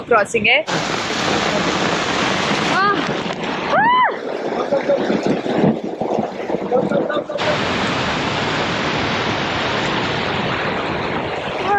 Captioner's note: water gushing